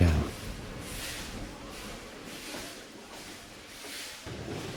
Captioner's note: steam chuffing